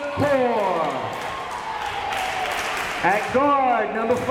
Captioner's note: crowd members cheering